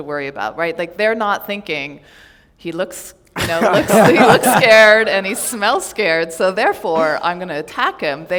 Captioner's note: laughter